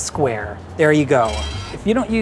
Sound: mold scrapes

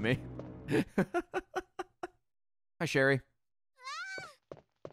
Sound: laughs

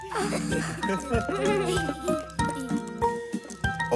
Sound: giggling

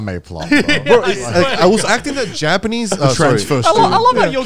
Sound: group chattering

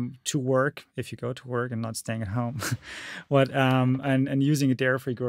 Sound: chuckles

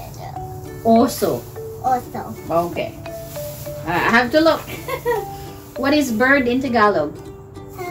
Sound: giggling sound

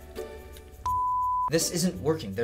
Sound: beep

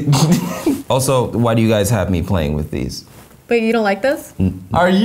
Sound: laughs

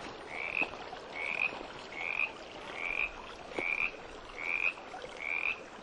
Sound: frog croaking very close

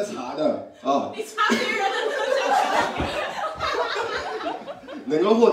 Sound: everyone laughs

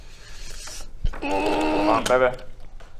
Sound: ooorrRRrrrrRrRrrr

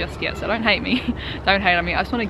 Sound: laughs

